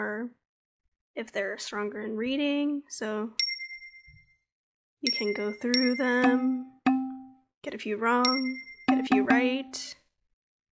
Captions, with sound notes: if they're stronger in reading, so... [ding] You can go through... [dinging] Get a few wrong, get a few right.